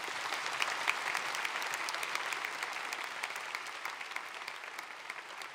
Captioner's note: applause